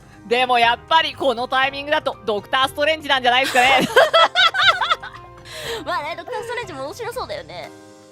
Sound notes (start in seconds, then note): 3.4 laughs